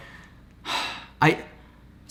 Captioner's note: sighs